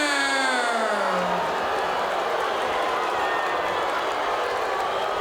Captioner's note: crowd cheering and booing